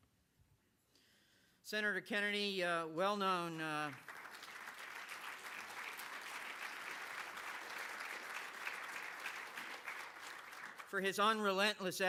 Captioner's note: applause